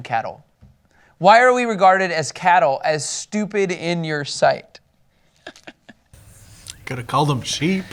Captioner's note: laughs